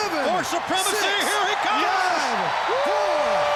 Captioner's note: crowd cheering